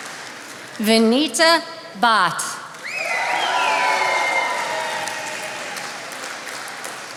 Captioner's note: attendees applauding